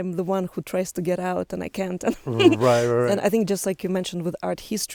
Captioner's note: laughs